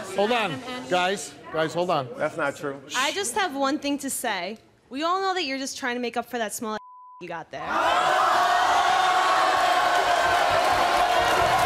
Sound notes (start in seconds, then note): 7.7 audience cheering